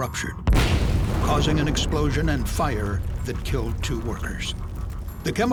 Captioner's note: sound of explosion